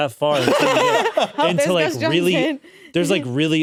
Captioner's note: laugh